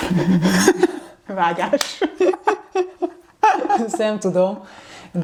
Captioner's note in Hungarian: nevetés